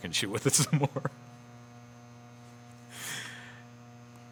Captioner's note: laughs